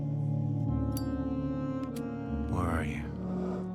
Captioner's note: lighter clicking